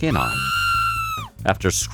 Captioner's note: woman screaming